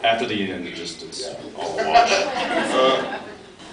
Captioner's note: laughs